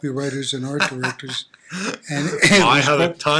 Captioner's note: laughing